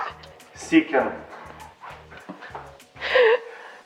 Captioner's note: laughs